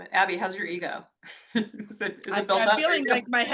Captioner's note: laughs